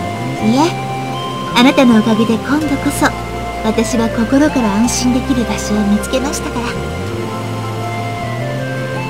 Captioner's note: rain